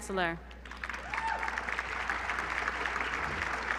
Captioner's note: applause